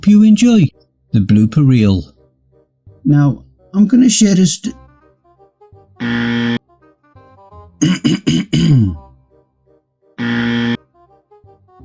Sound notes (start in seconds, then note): 7.8 clears Throat!!